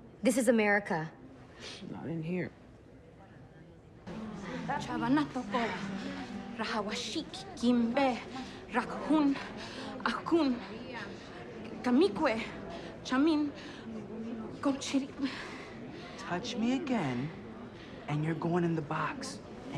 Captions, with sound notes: This is America. - Not in here. (speaks in foreign language) - Touch me again, and you're going in the box.